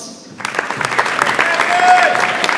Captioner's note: audience applauds